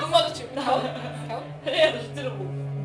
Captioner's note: tilting head sound